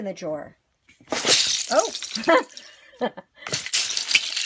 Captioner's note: googly eyes crashing; laughing; googly eyes clacking